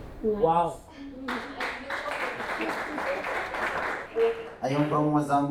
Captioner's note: applause